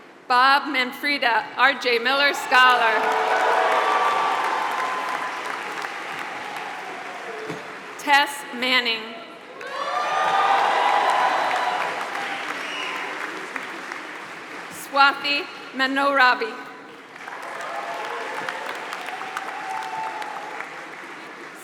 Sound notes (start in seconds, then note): 2.3 applause; 9.5 applause; 16.9 applause